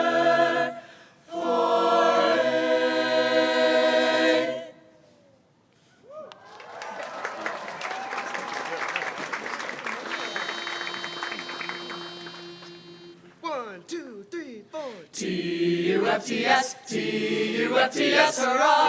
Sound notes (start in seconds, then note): 6.2 applause